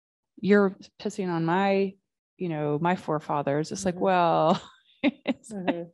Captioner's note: chuckling